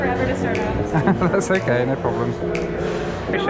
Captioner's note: laughs